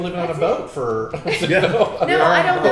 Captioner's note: laughing